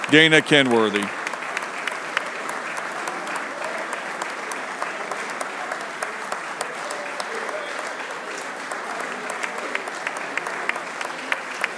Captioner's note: applause